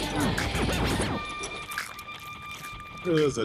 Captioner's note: squelching chewing